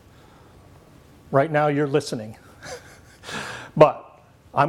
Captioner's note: laughs